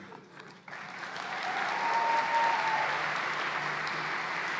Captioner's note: cheers and applause